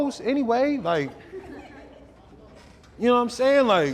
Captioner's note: crowd giggles